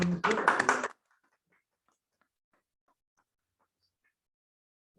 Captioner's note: applause